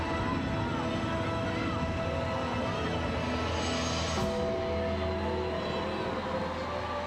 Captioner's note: somber music continues; crowd cheering continues